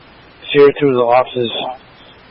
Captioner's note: radio traffic